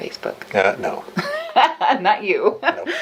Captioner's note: laughs